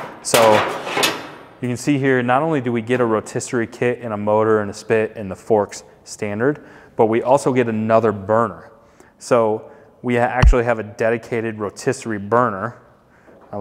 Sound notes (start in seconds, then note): none